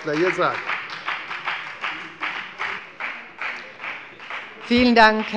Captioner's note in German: Beifall bei der FDP